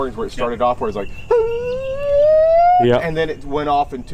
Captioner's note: imitating barred owl